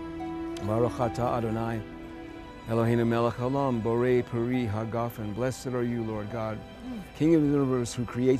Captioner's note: speaking hebrew